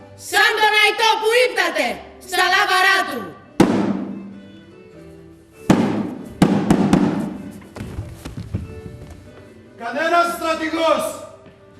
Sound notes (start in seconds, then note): 3.5 πυροβολισμός; 5.4 πολλοί πυροβολισμοί